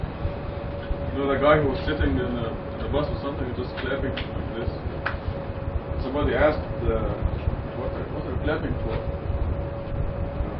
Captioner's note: alkış yapıyor